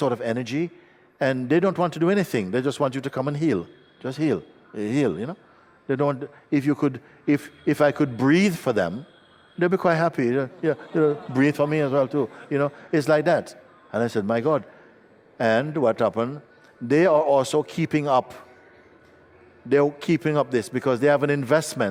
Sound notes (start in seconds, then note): 10.3 laughter